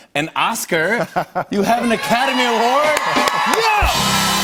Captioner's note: cheers and applause